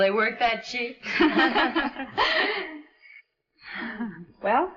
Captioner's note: women laugh